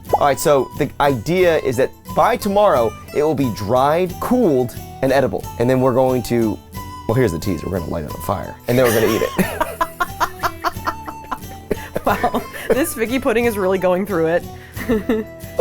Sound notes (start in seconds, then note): 8.7 both laugh